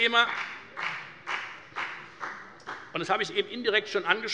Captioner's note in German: Beifall bei der FDP